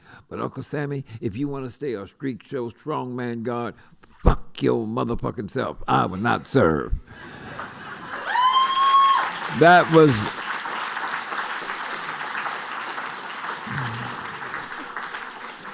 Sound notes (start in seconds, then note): 7.4 applause